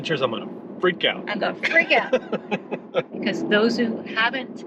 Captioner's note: laughing